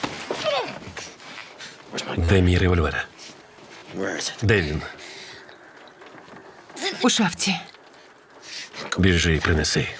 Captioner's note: gasping